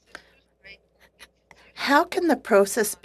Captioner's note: speaking French